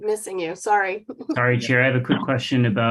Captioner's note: laughs